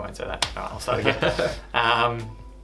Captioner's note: laughs